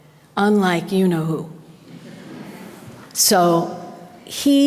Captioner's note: audience laughter